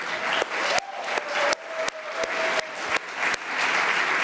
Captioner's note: audience applauding